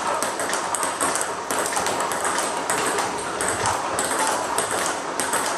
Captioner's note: ball ping pong hitting continues